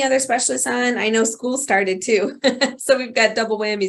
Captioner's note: laughs